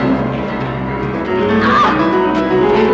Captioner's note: Beatrice shouts in pain